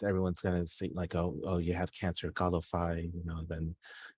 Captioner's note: speaking in foreign language